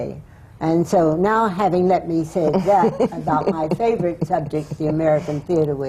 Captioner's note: laughs